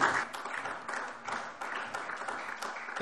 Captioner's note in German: Beifall SPD